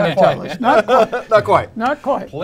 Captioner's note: all laughing